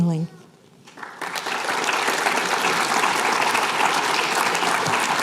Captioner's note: applause